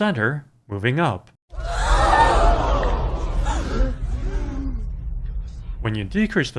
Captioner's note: crowd gasping